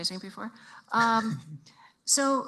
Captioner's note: chuckles